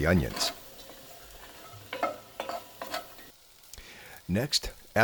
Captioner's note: spoon scrapes